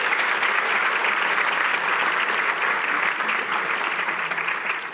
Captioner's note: applause